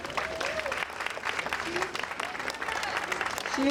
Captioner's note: audience applauding